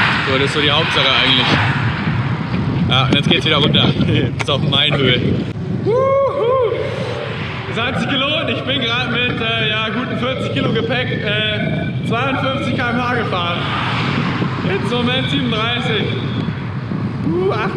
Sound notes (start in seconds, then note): 5.8 cheers